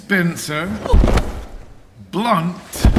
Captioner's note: thud